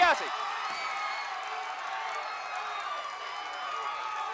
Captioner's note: audience cheering